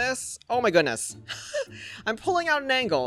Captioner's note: chuckles